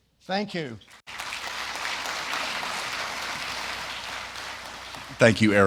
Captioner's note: audience applauding